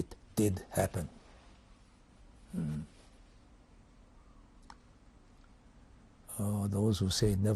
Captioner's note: pauses for 6 seconds